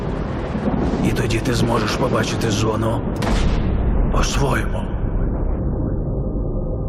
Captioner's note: thunder rumbling